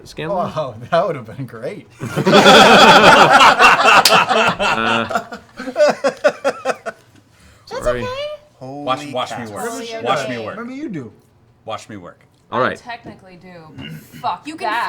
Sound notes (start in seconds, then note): 2.0 laughter